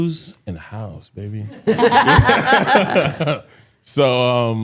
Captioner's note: laughs